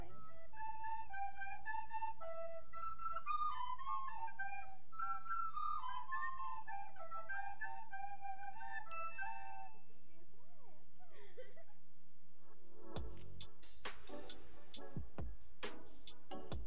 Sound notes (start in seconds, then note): 0.2 recorder music; 10.5 girl giggling; 12.8 cool vibe music